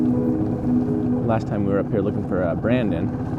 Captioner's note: wind whirring; boat rumbling